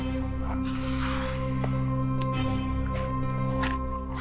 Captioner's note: Trevor exhaling; dramatic music